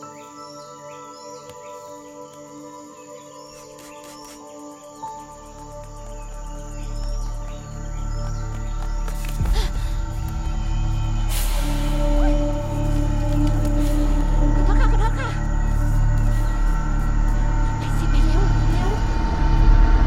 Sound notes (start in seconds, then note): 14.4 Malay Language